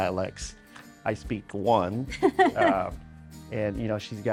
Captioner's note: laughing